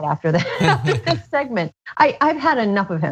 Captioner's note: laugh